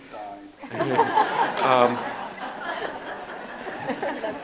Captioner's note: audience laughs